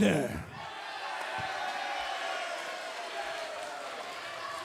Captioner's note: cheers and applause